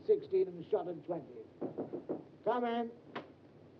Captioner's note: knocking on door